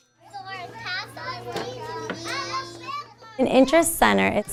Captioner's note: chidren playing